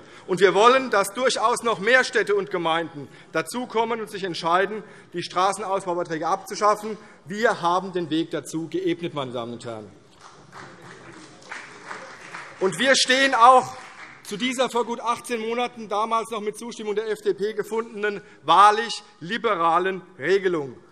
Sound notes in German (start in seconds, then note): 10.2 Beifall CDU und BÜNDNIS 90/DIE GRÜNEN